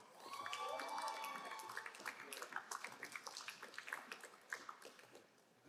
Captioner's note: crowd cheering and applauding